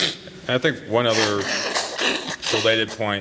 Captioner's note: blows nose